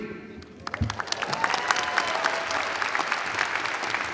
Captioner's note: audience applauding